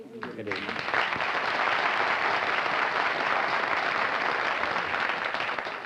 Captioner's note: applause